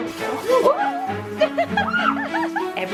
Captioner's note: water gushing; mom laughing and child screaming